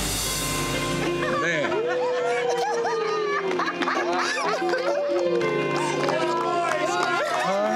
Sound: everyone laughing

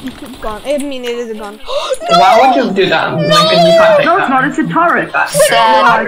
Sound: cries hysterically

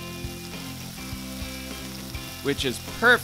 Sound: food sizzling

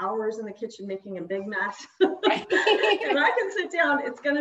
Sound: laughs

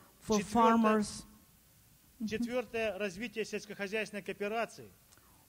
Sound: speaking Russian

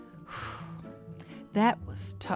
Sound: person sighing

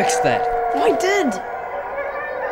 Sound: wolf howls continue

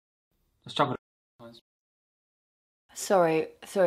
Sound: distortion

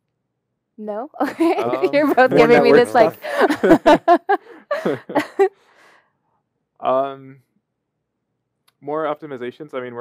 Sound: laughter

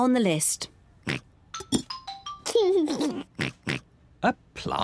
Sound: oinks and giggles

